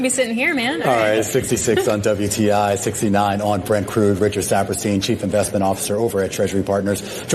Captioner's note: laughter